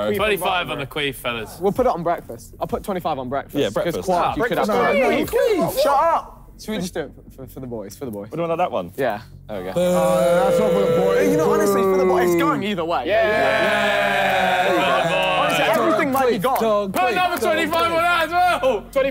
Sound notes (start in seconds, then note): 13.2 cheering